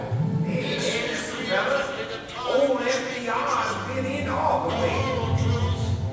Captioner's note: radio fades in